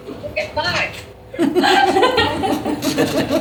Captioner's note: laughter